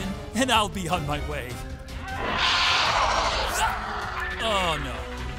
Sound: dinosaur roaring

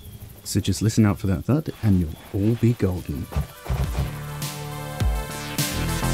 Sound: thud

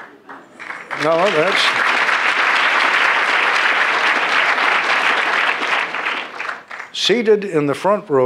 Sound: applause

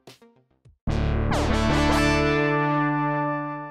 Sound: buzzy sound effect

